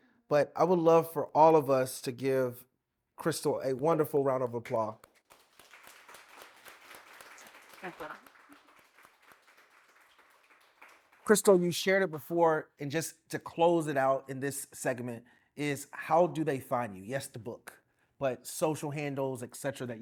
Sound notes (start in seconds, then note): 5.0 applause